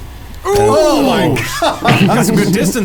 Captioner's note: exclaims